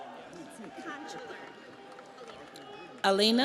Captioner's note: audience applauds; audience cheers